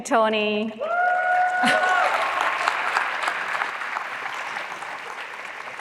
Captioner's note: applause